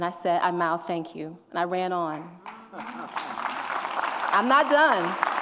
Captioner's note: audience applauds and cheers